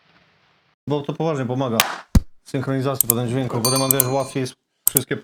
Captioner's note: slap